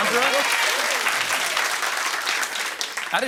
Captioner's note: cheering and applause